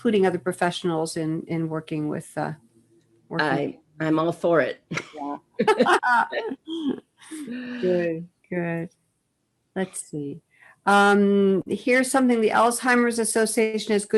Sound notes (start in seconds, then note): 5.6 laugh